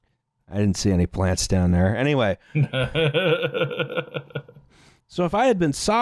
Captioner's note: laughs